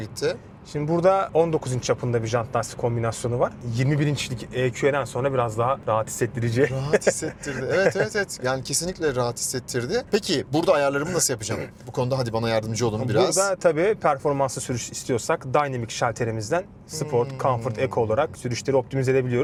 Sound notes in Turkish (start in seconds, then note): 6.6 kahkaha